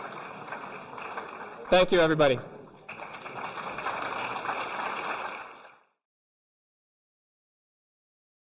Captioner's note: applause continues, fades out